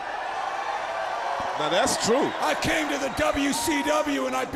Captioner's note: crowd cheering